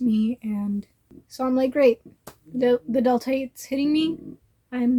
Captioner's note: sarcasm